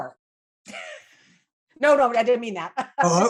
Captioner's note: laughing